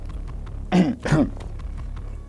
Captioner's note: coughing